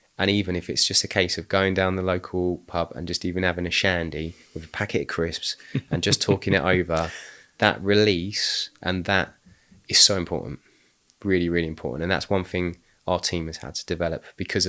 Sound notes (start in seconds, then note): 5.7 laughing